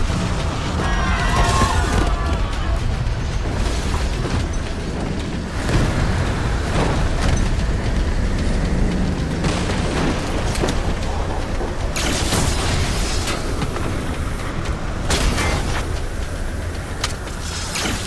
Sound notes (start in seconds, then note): 0.5 people screaming; 1.0 explosion blasting; 3.5 dramatic music; 11.9 electric blast; 15.0 laser blast